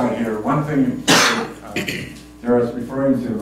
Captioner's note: cough